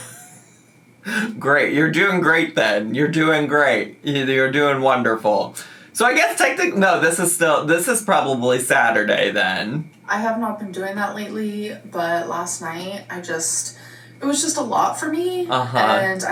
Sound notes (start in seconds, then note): 0.0 laughing